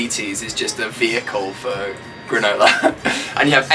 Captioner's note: laughs